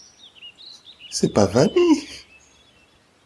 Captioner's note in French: voix hésitante